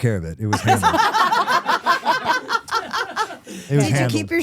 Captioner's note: all laughing